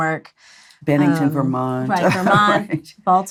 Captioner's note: laughs